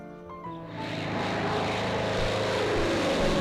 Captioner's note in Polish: dźwięk samolotu; dźwięk syreny alarmowej